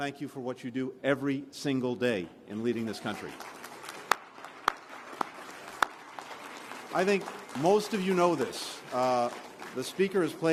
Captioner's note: applause